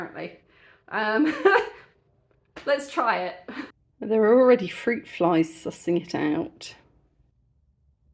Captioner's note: laughing